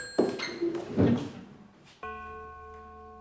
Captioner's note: doorbell chiming